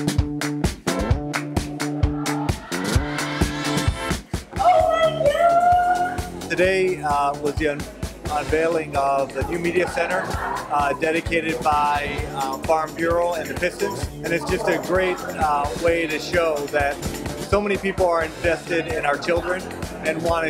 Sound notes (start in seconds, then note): 3.2 cheering and applause